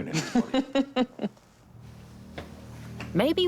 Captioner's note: laughing